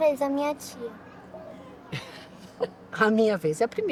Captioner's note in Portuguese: risos